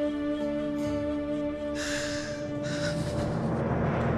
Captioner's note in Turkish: Ağlama sesi